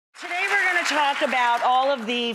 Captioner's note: applause